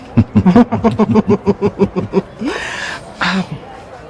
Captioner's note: both laughing